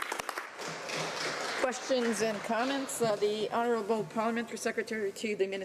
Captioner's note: some applause